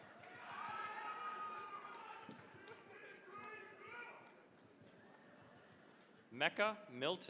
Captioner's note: cheering, applause